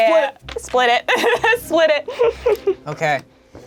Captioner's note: laughing